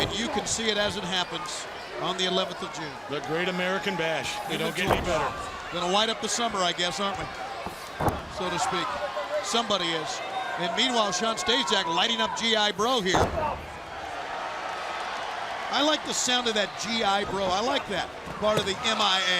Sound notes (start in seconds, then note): 15.0 crowd cheering